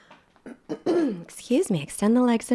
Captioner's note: clears throat